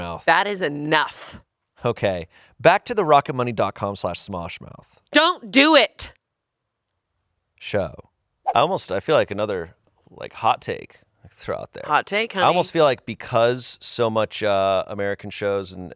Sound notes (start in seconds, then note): none